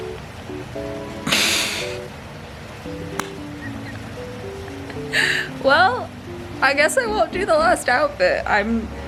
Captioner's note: laugh of pain